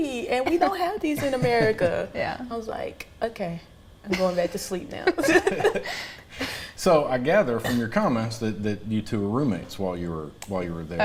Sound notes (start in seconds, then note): 0.4 laughing